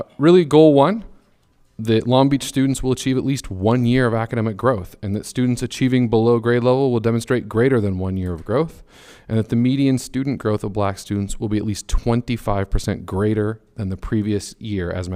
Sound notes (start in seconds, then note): none